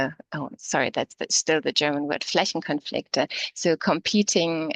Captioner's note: speaking in german